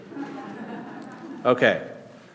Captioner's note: class laughing